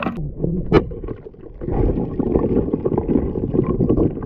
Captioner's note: water gurgling